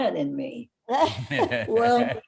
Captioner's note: laughing